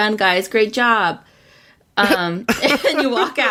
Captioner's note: laughs